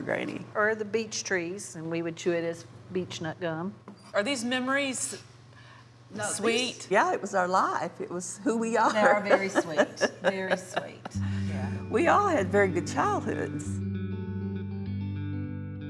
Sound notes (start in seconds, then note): 8.9 laughing; 13.3 calm music